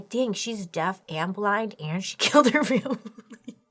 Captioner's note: laughs